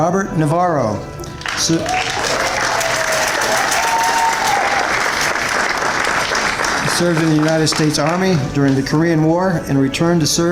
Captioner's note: applause and cheers